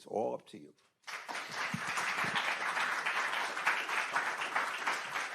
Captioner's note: attendees applauding